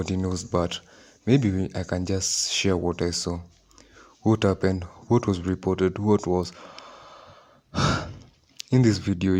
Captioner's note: breath in, out